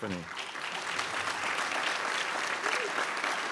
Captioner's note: crowd applauds